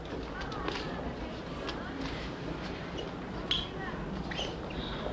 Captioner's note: crowd murmurs